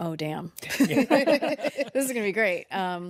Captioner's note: all laugh